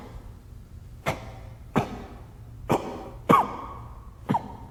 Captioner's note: Governor coughing